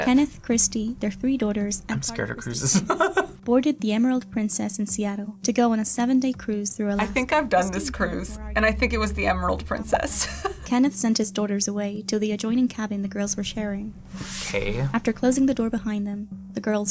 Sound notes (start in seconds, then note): 1.9 laughs; 10.3 laughs